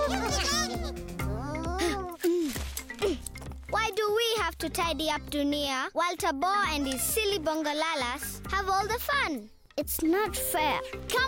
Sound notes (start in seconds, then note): 1.7 grunting softly